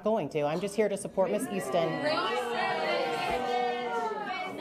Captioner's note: jeering